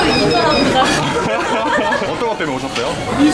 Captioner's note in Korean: ㅎㅎㅎ, ㅎㅎㅎ